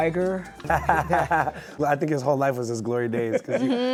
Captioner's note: laughs